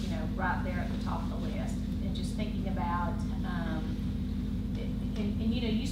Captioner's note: none